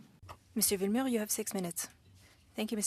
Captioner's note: speaking French